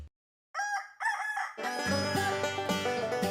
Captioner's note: rooster crows